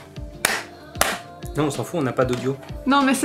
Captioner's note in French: clap clap avec les mains